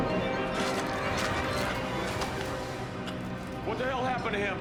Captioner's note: Hall retching